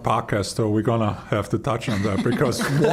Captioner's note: all laughing